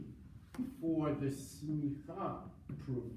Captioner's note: foreign language